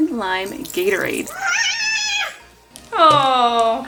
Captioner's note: child squeals